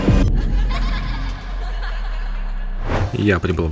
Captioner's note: scary children's laughter